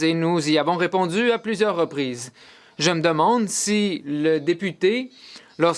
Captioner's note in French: voix de l'interprète